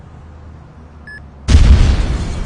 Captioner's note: electronic beeping; explosive booming